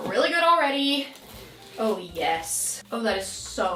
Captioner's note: zipper whooshing